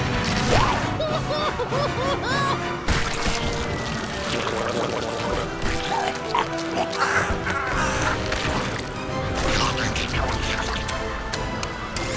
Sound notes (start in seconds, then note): 0.6 groaning